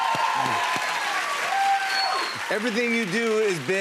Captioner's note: cheers and applause